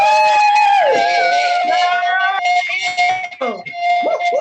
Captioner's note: team cheering